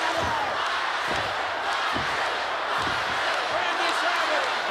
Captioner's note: crowd chanting